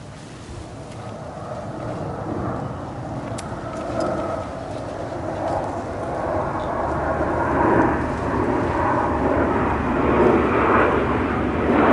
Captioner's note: very noisy plane going overhead